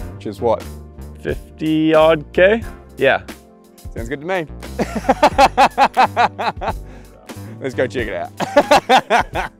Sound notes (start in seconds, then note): 4.8 laughs